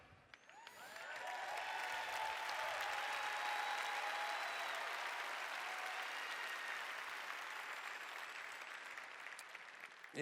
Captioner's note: cheers